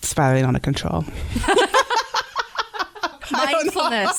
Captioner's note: laughter